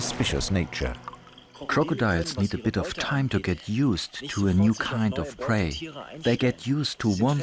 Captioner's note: in German